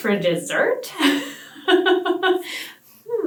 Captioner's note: laughs